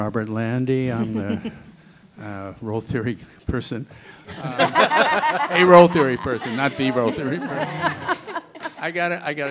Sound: laughter

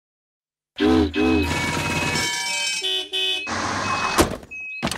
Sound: vehicles honking

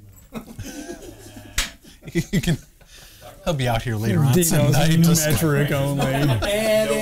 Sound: laughter

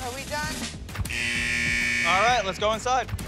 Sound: buzzer buzzes

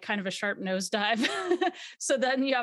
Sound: laughs

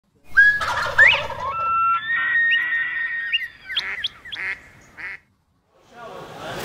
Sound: birds chirping

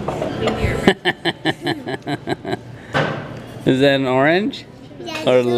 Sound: laughing

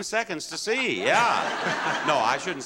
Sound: audience laughing

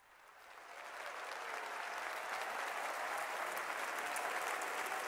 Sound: audience applauding

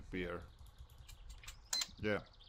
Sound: mouse clicking, register beeps

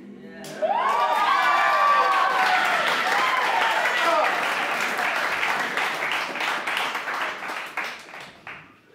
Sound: applause

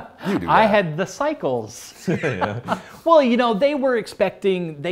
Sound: laughs

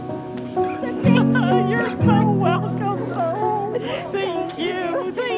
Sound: laughing

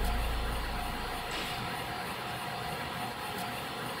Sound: clank

